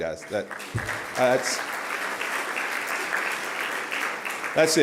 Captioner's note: applause